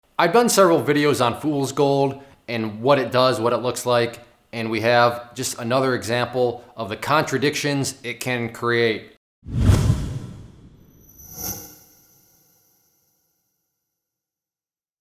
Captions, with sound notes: I've done several videos on fool's gold and what it does, what it looks like and we have just another example of the contradictions it can create. (short swoosh)